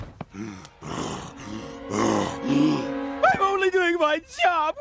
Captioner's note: grunting